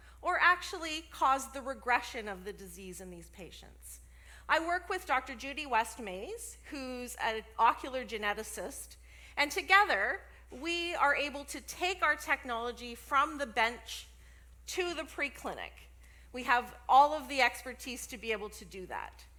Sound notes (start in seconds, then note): none